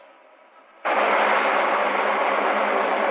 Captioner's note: whirring